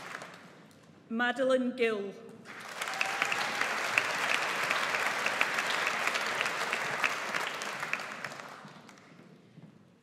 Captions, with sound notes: Madeleine Gill. (AUDIENCE APPLAUDS)